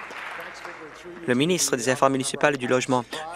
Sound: applause

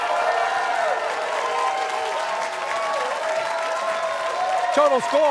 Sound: cheers and applause

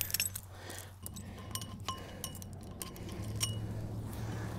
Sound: chains clinking

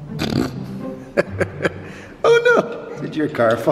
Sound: laughs

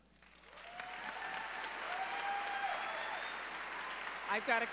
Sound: audience cheering

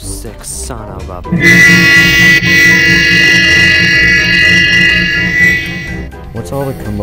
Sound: horn

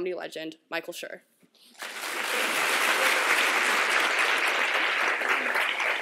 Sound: applause

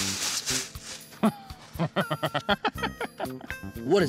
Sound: chuckling

